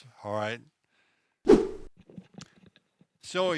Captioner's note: whoosh